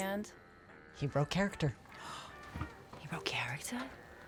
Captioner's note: vivien gasps